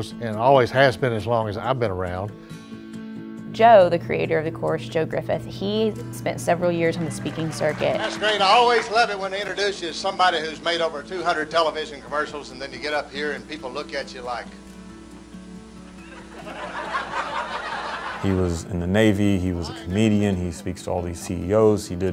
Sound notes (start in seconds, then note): 16.0 audience Laughter